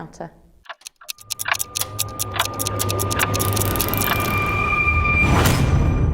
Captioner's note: clocks ticking